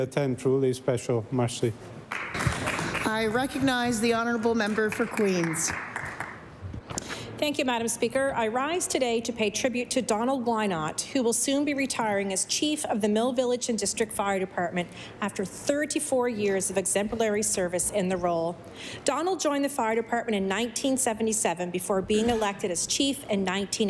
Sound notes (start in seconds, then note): 4.4 applause